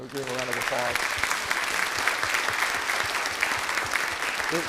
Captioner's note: audience applauding